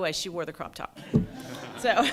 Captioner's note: laughter